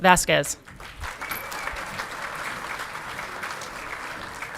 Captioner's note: audience clapping